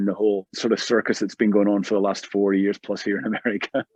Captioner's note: laughter